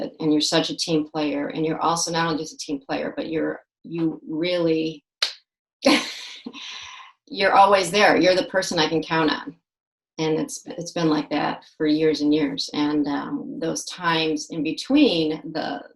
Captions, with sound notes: and you're such a team player and you're also not only just a team player, but you really, (claps once and laughs) you're always there, you're the person I can count on. And it's been like that for years and years. And those times in between